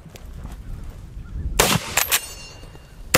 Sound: gun fires

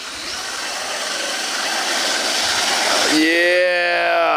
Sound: both engines roaring

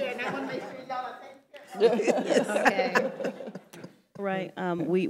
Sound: panelists laughing

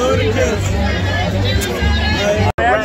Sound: blows kiss

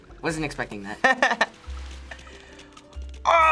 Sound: laughs

